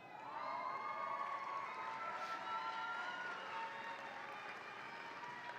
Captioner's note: audience applauds and cheers